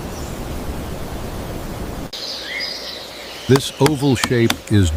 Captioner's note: bird vocalizing